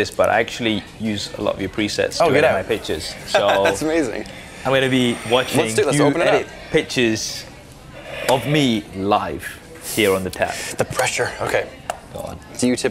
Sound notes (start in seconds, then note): 3.3 chuckles